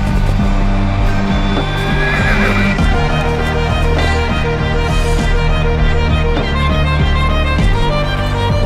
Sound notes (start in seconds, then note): 1.4 horse neighing; 4.1 dramatic music continues